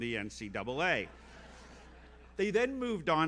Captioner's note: audience laughs